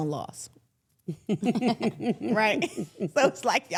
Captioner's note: women laughing